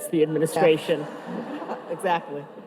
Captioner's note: audience laughing